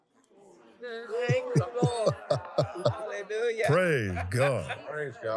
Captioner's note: laughs